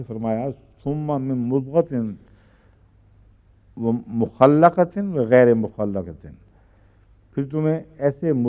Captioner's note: Arabic